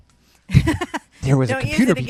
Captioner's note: laughs